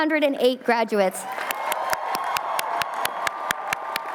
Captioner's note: cheering